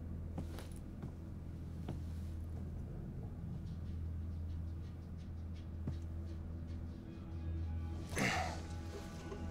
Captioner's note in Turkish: Ayak sesleri